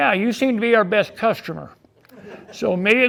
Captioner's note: audience laughing